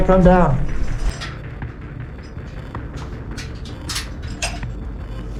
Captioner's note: metal scraping